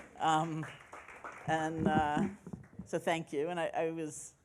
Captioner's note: applauding